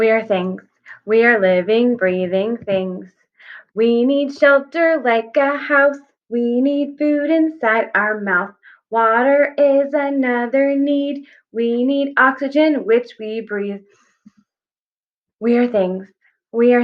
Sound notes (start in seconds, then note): 13.8 deep breath